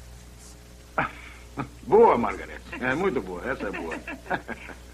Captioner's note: chuckles